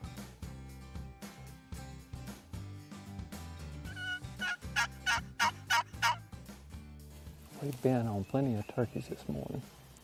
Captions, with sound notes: (turkey call yelps) We've been on plenty of turkeys this morning.